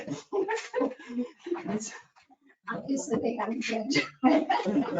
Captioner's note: all laughing